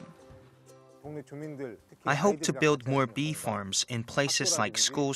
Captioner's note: Korean